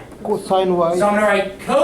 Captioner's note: voiceover